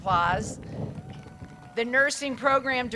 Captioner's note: crowd cheers